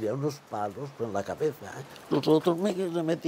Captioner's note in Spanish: ríe